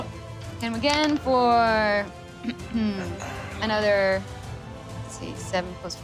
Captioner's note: clears throat